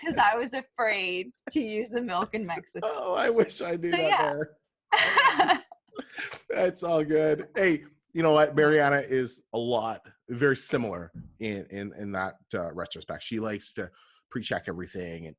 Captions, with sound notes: 'cause I was afraid to use the milk in Mexico. - I wish I knew that there. (laughter) It's all good. Hey you know what, Mariana is a lot very similar in that retrospect. She likes to pre check everything